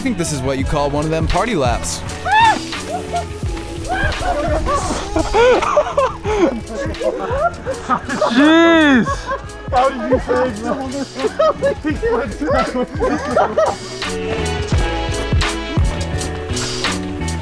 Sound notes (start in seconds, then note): 3.7 bikers cheering; 6.9 jazzy electronic music